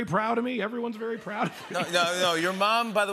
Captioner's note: laughter